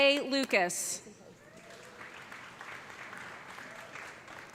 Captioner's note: applause